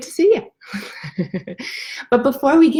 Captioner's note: laughs